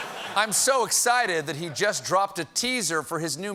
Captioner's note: laughter